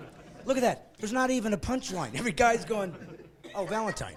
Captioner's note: laughing